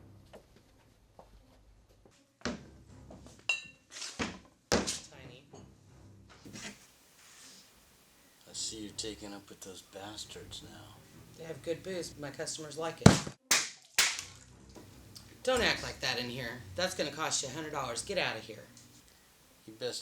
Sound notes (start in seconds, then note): 3.5 clinking; 13.0 thudding; 13.0 crashing